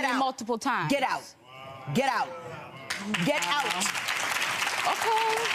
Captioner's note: clapping